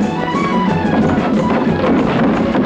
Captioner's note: banging; dramatic music; water splashing